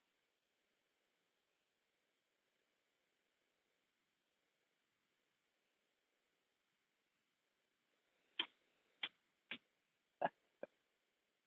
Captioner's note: silence